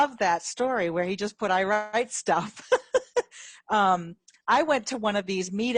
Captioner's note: laughs